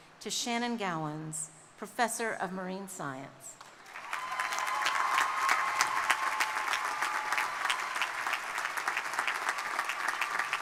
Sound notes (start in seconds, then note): 3.8 crowd cheering; 3.9 audience members cheering